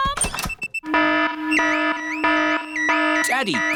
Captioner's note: alarm blaring